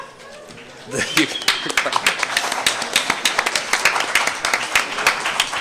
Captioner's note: applause